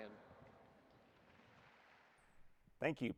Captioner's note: audience applauding